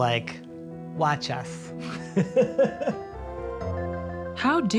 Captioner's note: laughs